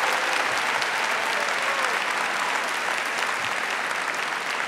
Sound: applause

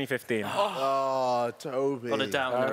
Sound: gasping

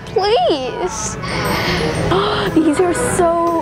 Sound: gasps

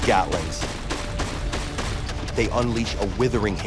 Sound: gun banging

